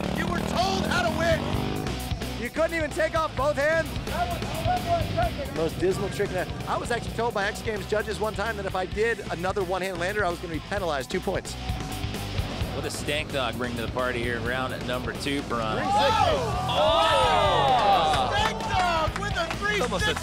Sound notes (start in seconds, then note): 15.6 crowd exclaims